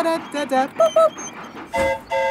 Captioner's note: mimics train whistle; train whistle toots